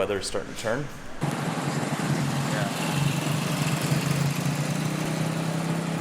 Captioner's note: motorbike motor runs